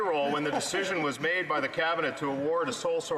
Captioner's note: laughter